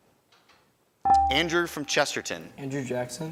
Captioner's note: buzzer chimes